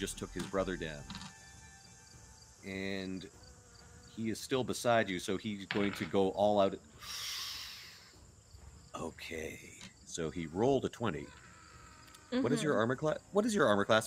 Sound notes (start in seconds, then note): 5.7 dice tapping; 7.0 inhales